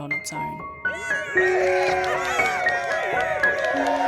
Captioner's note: cheering sounds